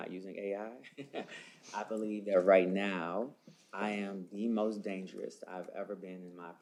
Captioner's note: laughs